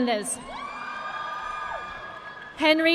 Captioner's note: audience clapping